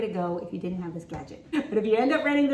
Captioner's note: laughs